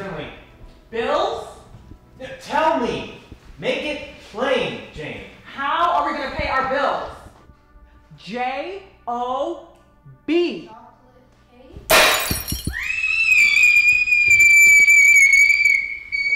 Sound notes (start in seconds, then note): 11.9 smashes cup; 12.7 screams